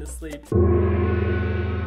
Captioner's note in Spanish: ¡gong!